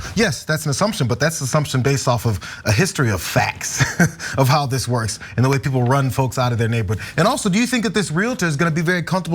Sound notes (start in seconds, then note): 3.5 laugh